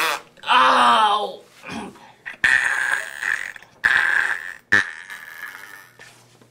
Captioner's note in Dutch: makes farting sound